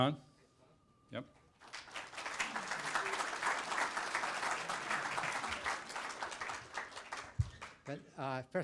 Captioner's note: applause